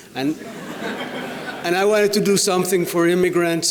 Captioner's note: audience laughs